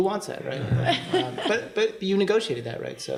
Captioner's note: laughter